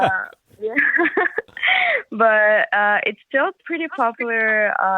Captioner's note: laughs